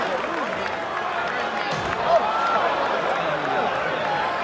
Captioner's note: crowd chatter